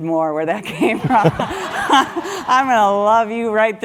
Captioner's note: laugh